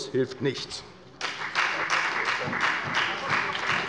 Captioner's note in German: Beifall bei der FDP und bei Abgeordneten der SPD